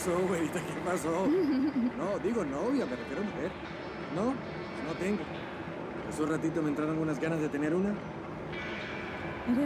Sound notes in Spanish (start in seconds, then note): 1.2 risas